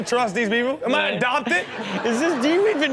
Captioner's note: audience laughs